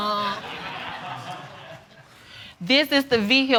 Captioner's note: audience laughing